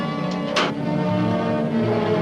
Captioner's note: suspenseful music; switch pops; suspenseful music